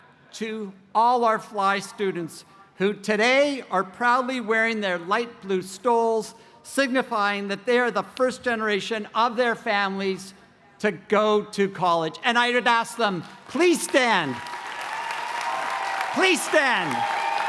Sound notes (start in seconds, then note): 13.3 cheering